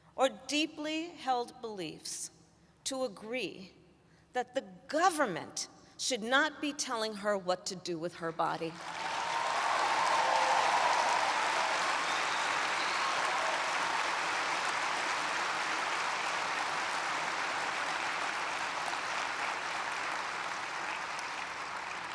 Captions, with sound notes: or deeply held beliefs to agree that the government should not be telling her what to do with her body. (Applause.)